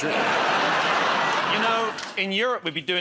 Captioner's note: laughter